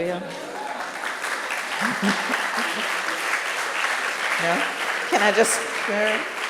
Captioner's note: audience cheering and clapping